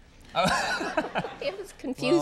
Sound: Conan laughs

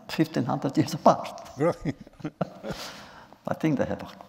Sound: laughs

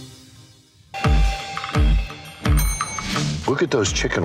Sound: dramatic music; bell dings

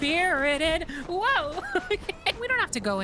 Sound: laughter

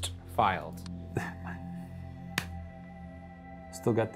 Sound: chuckling

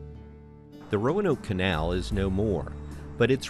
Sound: voiceover

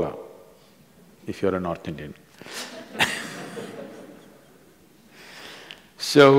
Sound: few laugh

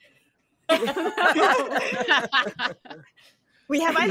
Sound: all laugh

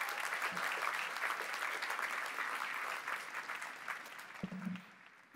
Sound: applause

